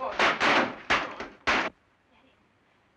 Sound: doors smashing

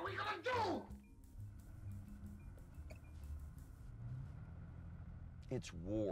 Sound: engine revving silently

